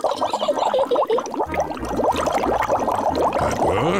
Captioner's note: takes big breath; giggles